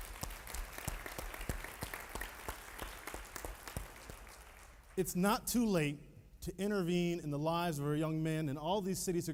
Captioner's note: applauding